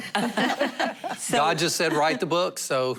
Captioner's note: laughter